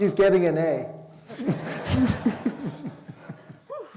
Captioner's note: laughter